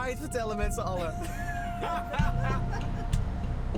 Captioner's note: laughter